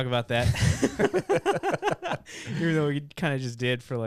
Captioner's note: laughing